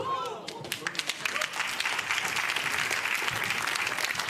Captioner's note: audience applauds